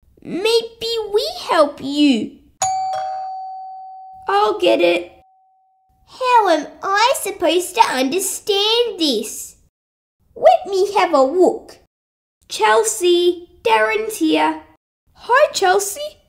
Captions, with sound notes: Maybe we help you! (Doorbell) I'll get it How am I supposed to understand this? Let me have a look! Chelsea, Darrin's here! Hi Chelsea!